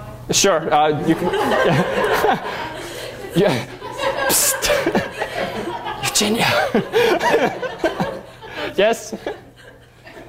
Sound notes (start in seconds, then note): 2.3 laughter; 4.3 whispers